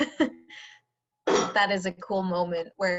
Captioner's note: laughter